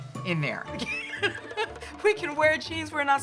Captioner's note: laughing